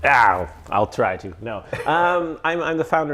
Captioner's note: chuckles